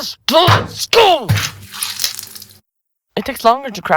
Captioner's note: skull cracks open, brains spill out